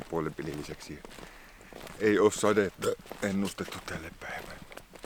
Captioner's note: burp